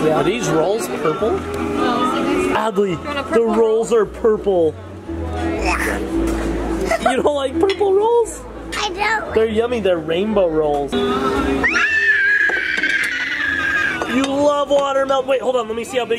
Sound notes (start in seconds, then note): 11.6 screeches